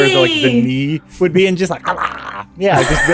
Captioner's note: happy mouth noises